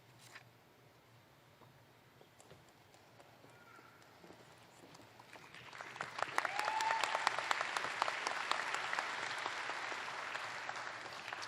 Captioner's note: applause